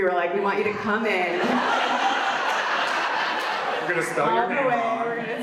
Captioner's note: audience laughs